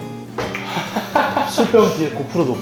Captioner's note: ahahaha